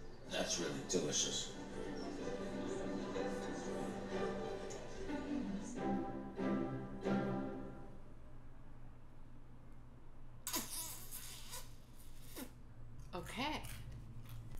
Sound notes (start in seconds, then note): 10.4 mouth sucking sound